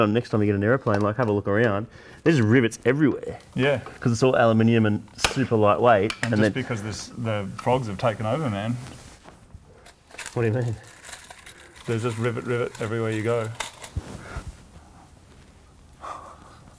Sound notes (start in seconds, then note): 9.8 rivets clatter; 15.2 silent laughing